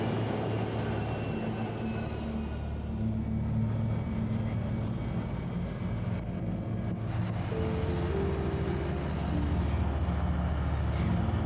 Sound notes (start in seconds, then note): 3.2 airplane turbine and eerie music; 10.6 eerie music